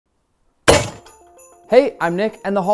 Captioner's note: knife slamming on table; christmas music begins